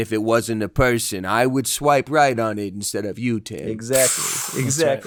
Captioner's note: puff